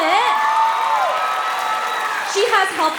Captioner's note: applause; cheering